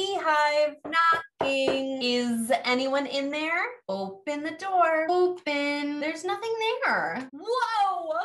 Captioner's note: knock, Knock